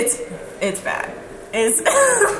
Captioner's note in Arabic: يضحك